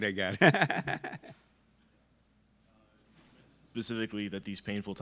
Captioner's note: laughs